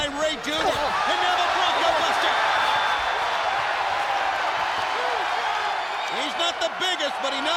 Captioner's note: crowd screaming